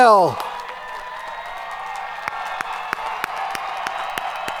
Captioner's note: audience cheering